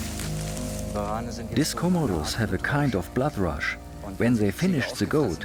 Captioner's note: in German